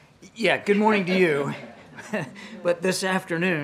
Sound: laughter

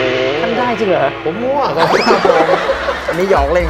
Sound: laughter

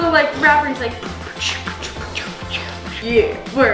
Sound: beatboxes

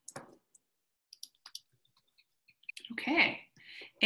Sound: silence

